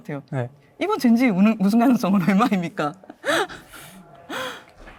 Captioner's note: laughs